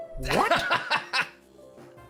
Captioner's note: laughs